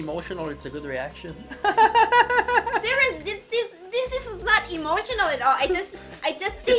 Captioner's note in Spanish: La risa